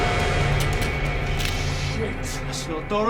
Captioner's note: dramatic music; bones cracking